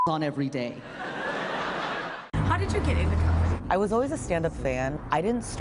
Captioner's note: laughter